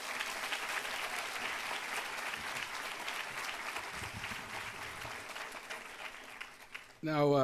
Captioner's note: applause